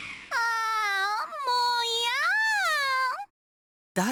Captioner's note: frustrated groan